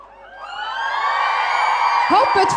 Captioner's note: audience cheering